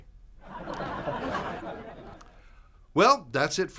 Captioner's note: laughter